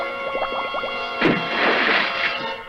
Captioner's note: splash!